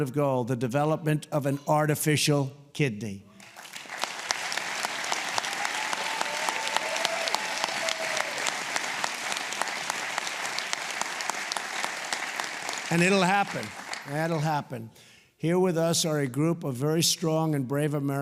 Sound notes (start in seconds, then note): 7.7 applause